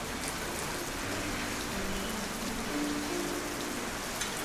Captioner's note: rain pattering